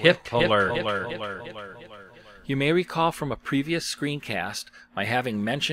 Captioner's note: sound effects